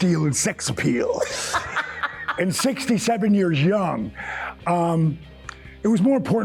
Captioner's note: laughing